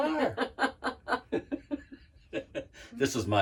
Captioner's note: laugh